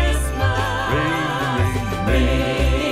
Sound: ring, ring

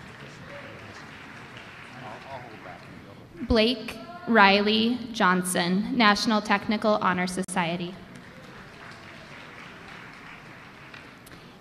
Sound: applause

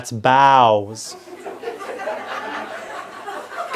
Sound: laughter

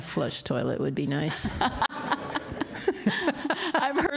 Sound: laughter

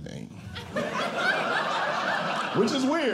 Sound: audience Laughing

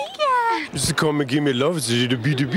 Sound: baby talk

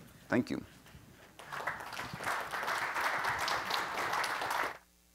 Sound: audience clapping

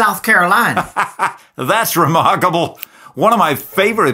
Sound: laughs

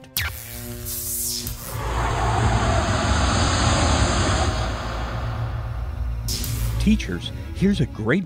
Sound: sound Effects

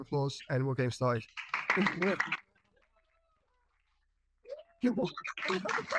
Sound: audience applauding

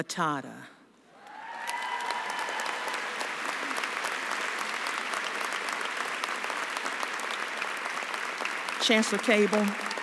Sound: applause and cheering

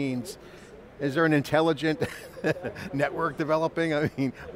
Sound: chuckles

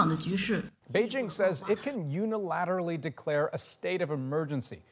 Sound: speaking chinese

